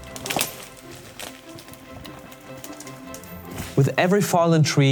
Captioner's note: tree cracking